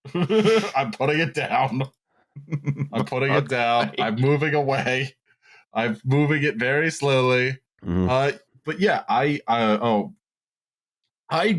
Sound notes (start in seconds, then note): 0.0 laughs; 2.4 chuckles